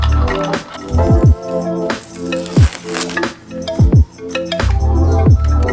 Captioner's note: satisfying peeling noises 💆🏼‍♀️